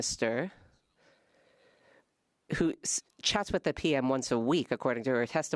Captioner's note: speaking French